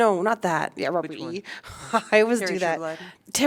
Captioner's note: laughter